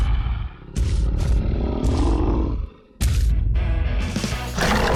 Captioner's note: giant steps approaching; T-Rex roaring; rock music